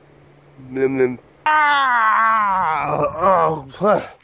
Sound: yelling

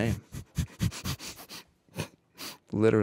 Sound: chuckling

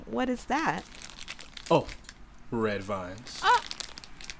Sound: candy wrapper crinkles

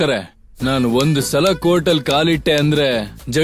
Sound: snaps finger

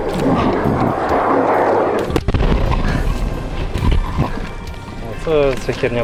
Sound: the sounds of a hostile aircraft

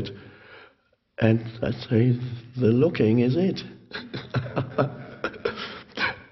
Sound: laughs

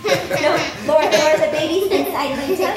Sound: laughs

